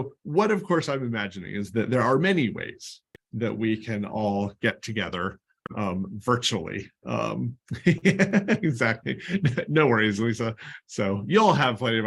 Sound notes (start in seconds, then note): 7.6 laughter